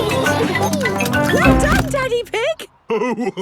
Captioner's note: laughing; giggles